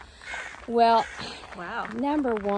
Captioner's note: crows crowing